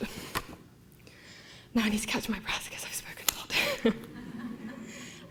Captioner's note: laughter